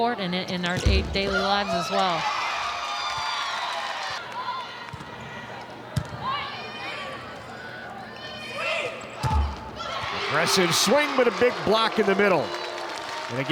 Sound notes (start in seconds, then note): 1.4 audience cheering; 6.0 ball thumping; 6.3 players shouting indistinctly; 9.2 ball thumping; 9.8 audience cheering